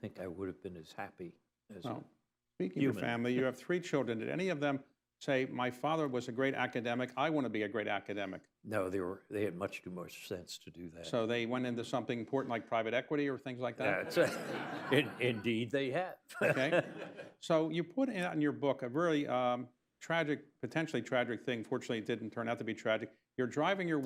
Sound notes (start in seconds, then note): 13.8 laughter; 16.3 laughs